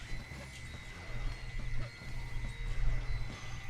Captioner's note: electric buzz